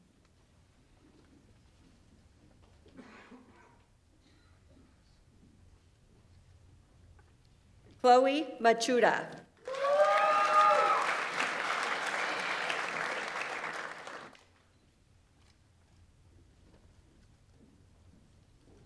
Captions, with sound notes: Chloe Michuda. (audience applauds) (audience members cheer)